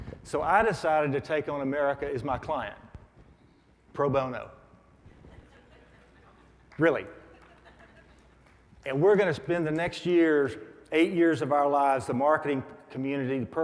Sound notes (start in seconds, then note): 7.2 audience laughs